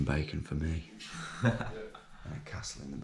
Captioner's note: laughing